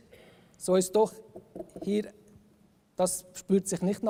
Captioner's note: knocks on wood